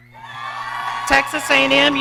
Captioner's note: audience cheering